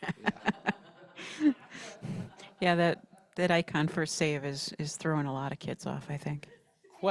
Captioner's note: chuckles